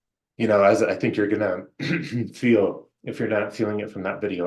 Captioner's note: clear throat